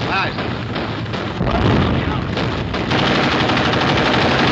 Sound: gunfire

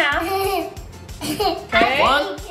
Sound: chuckling

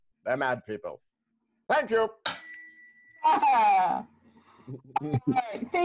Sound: tuning fork dings

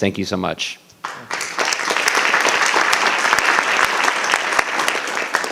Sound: audience applauding

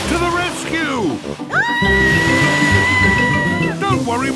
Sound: screaming

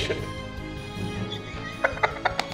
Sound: laughs quietly

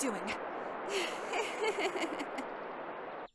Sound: laughs nervously

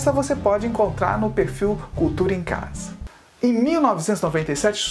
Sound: only in Portuguese

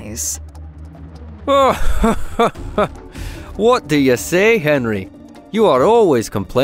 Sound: laughs

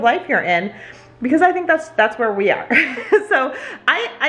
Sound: laughs

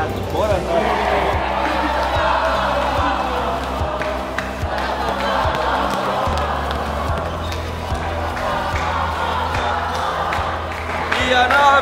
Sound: FURIA's team and staff chanting

